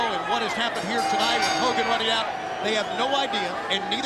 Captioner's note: bell rings